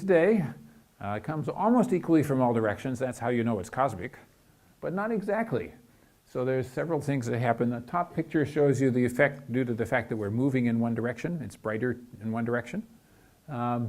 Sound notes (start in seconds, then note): none